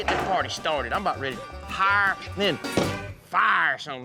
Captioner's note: slams fist